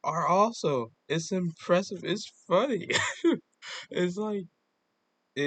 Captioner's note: happy laugh